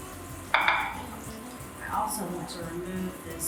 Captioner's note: plate banging